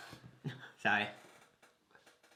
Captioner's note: chuckles